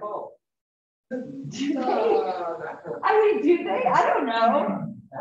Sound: laughter

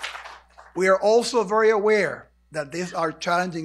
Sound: applause

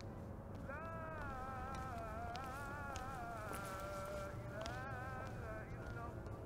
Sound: prayer's sound

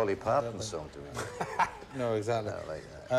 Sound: laughing

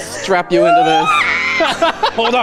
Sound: screams; laughs

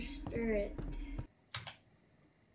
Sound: keyboard sound

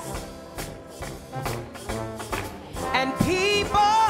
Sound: audience applauds

